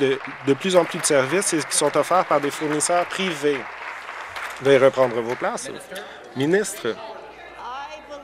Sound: applause

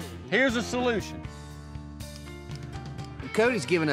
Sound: clicking

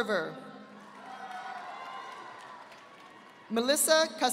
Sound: audience applauding

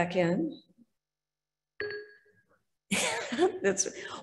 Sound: laughs; beep

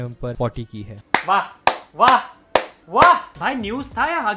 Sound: slow claps

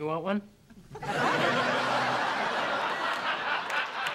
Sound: laughter

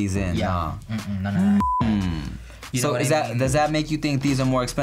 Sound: beep

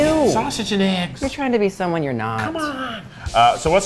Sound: none

